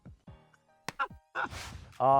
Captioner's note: laughs